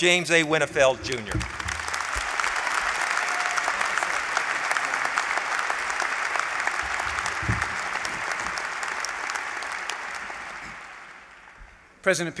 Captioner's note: applause